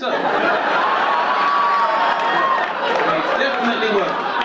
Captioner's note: audience laughing